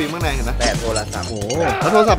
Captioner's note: Pat